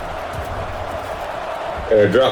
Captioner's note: crowd Noises